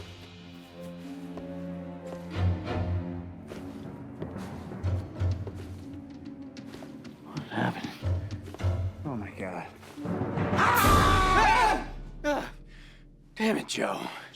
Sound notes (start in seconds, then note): 0.2 unsettling music; 10.6 Hatfield screams; 10.6 Joe yells aggressively